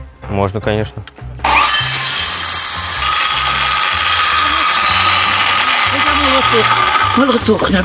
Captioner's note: saw sound